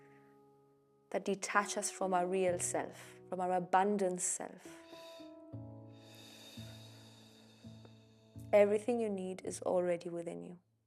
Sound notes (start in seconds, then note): 6.0 exhaling